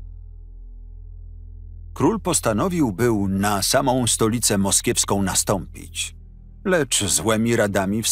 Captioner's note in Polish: Lektor